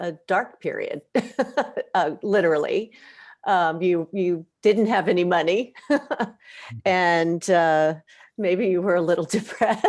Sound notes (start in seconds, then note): 1.1 laughs; 5.8 chuckles; 9.6 laughs